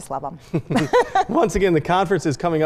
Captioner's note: both laugh